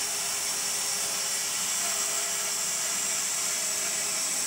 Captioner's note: saw whirring